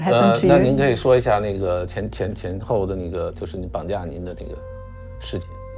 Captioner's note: speaking in foreign language